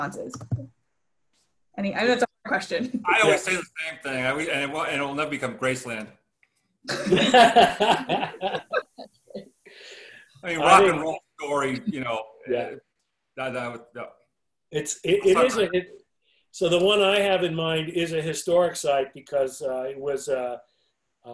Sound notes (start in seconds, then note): 6.9 group laughter